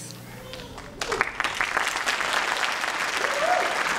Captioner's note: applause